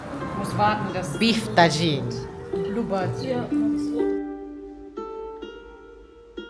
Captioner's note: speaking German